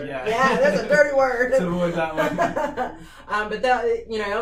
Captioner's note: laughing